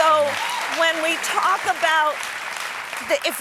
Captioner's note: applause